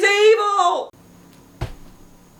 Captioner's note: flop